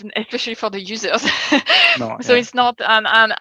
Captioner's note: laughing